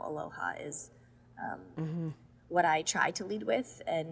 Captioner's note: none